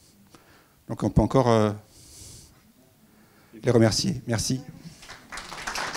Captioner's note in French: applaudissements